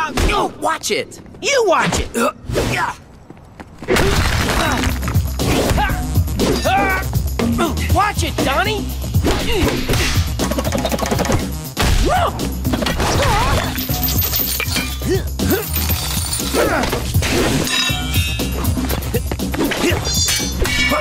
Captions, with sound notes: - Watch it! - You watch it! Watch it, Donnie! Whoo! [grunting] [grunting]